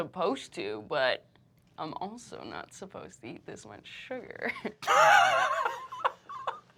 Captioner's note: laughs